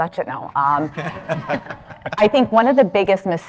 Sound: audience laughing

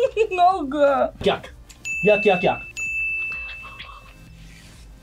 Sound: laughs; bell rings

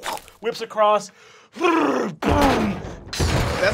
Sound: banging

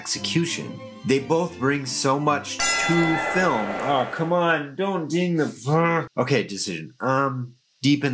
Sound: bell dings

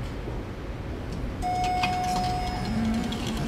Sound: elevator Ding

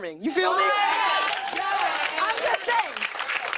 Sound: cheering

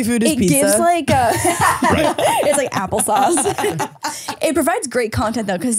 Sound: laughing

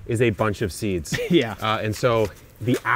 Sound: chuckles

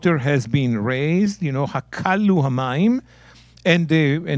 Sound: speaking in Hebrew

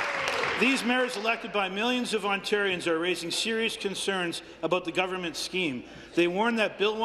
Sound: applause

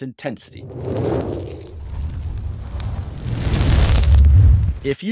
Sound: fire crackles

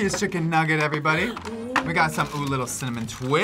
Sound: gasps

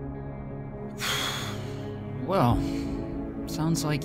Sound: sigh

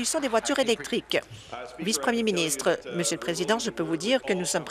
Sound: applause

